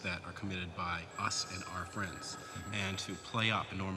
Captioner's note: telephone ringing